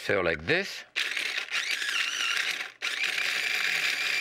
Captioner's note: food processor grinding